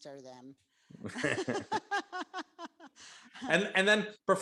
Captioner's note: laughs